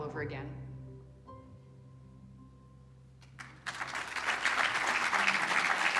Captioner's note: applause